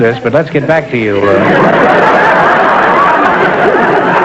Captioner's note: laughter